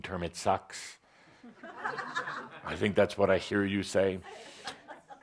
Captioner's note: laughter